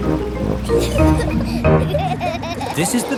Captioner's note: children giggling